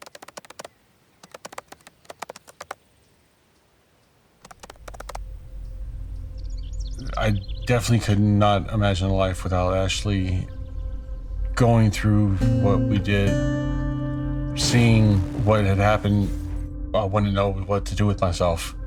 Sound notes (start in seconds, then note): 3.0 clicking keys